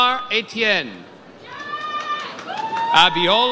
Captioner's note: audience cheers